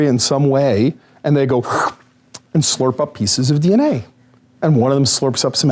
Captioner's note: slurp